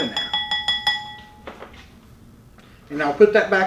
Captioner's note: bowl clinking